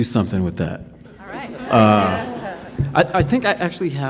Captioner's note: attendees laughing